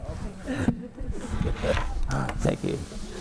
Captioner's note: panel members chattering